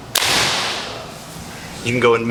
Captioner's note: clap